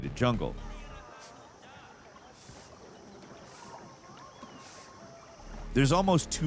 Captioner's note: people chattering; water babbling